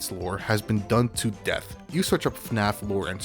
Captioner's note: none